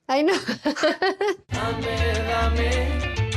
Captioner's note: laughs